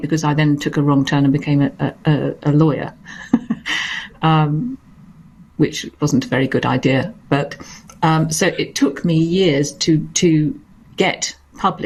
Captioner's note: laughs